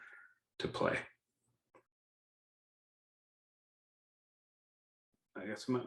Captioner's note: silence